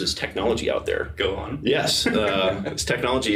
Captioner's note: laughing